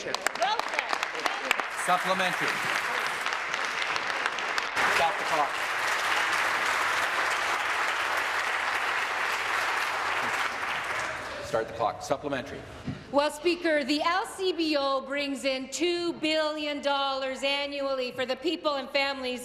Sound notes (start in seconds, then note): 4.1 applause